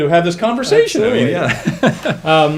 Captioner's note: laughing